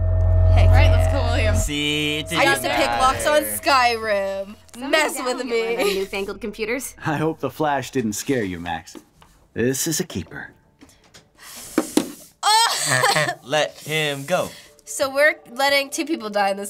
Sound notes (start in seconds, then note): 5.7 chuckles; 11.4 sucks in breath